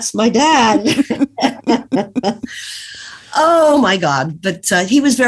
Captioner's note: laughs